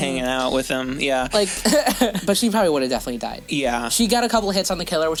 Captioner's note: dumb laugh